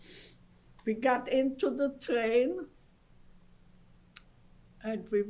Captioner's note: pauses for 3 seconds